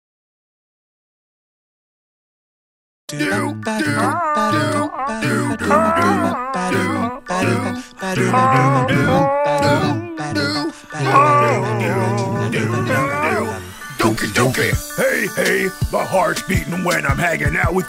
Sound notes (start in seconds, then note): 14.5 ahhh